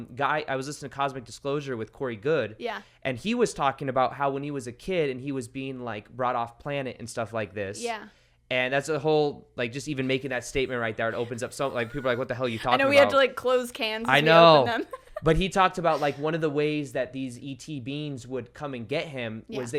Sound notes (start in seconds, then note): 14.0 laughs